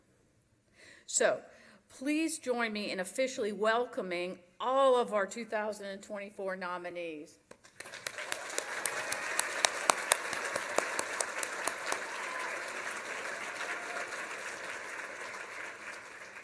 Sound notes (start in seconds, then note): 7.6 applause